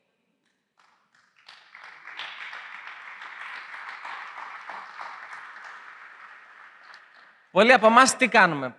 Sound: applause

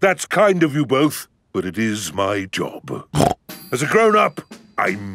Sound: snorts

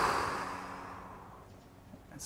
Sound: breathes deeply

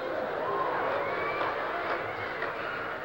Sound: cheering

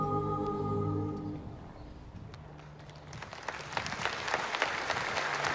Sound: applause

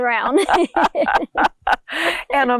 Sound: laughing

